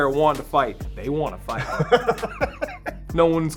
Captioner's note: Spice laughing